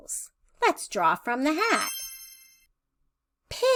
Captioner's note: chime sound